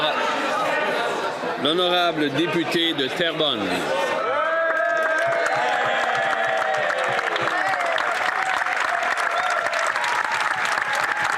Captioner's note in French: applaudissements